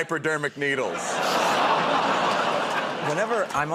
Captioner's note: laughter